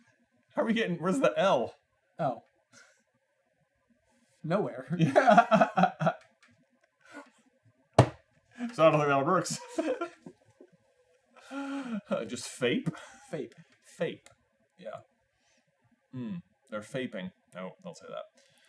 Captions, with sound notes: How are you getting- Where's the L? Oh. Nowhere. [laughs] Yeah! So, I don't think that one works. Just Fape? Fape. Fape. Yeah. Or Faping. No, don't say that.